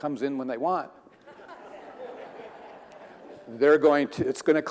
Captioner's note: audience laughing